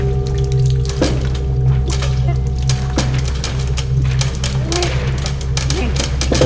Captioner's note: liquid splashing; muted struggle